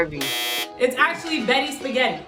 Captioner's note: buzzer sounds